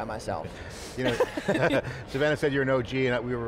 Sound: laughs

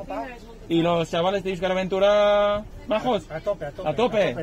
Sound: in Spanish

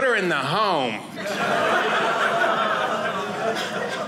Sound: audience laughing

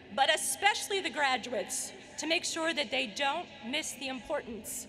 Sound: none

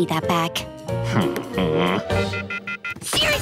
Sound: grunting

